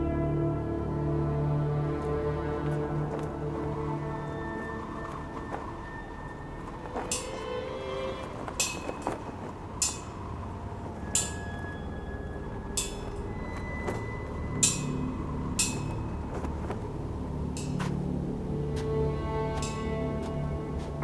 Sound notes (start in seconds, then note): 0.3 dramatic music; 8.4 metal clanking; 17.2 dramatic music; 17.7 footsteps thudding